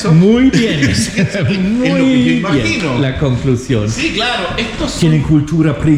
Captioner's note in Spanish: risas